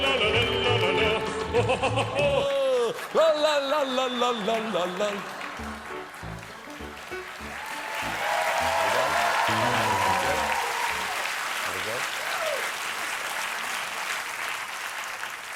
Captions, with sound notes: ( CHEERS AND APPLAUSE ) OF COURSE, THE RUSSIANS AREN'T THE ONLY INTELLIGENCE AGENCY TO UNDERMINE OUR ELECTION.